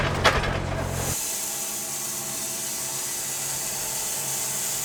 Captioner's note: blade sawing